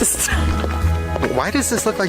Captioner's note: laughs